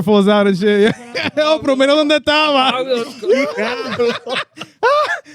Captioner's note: speaking In Foreign Language; laughing